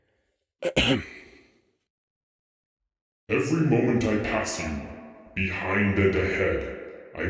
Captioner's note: ahem